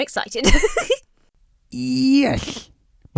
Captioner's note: Emma giggles